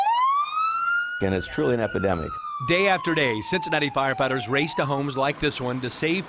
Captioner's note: siren